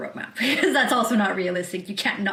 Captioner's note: laughs